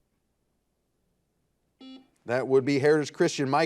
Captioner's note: buzzer beeping